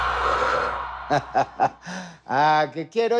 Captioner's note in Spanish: Risas